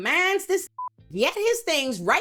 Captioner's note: beep